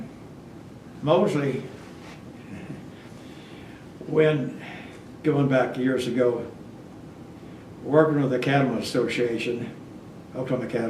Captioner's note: laughs